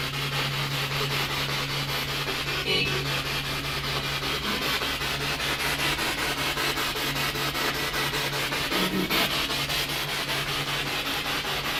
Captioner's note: radio noise from the spirit box